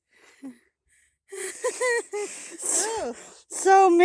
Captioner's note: nervous laughter